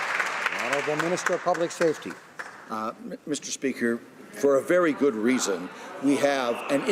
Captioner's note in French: voix de l'interprte